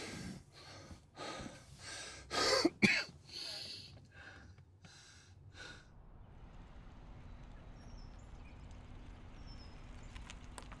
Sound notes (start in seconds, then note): 2.4 David coughing; 7.8 birds chirping